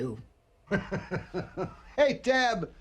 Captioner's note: laughing